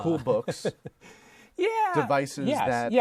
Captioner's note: laughter